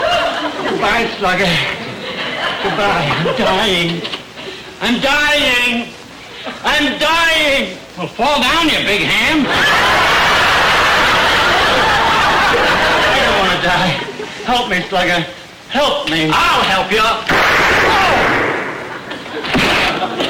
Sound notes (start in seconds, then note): 9.4 audience laughter; 17.2 gunshot